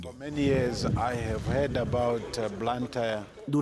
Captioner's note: Hablando idioma extranjero